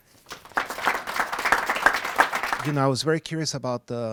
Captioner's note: applause